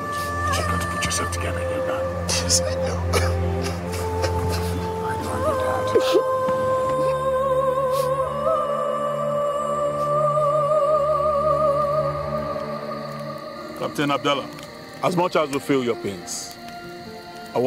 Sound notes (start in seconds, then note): 2.7 sobbing; 6.3 somber music